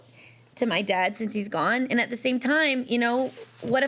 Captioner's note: none